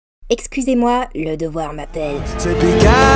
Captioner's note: suddenly serious voice